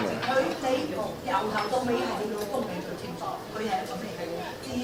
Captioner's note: all chattering